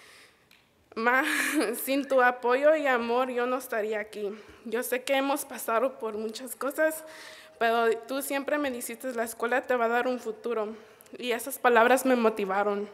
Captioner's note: foreign Language Spoken